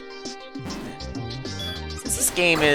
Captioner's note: sigh